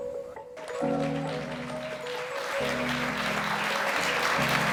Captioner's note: audience clapping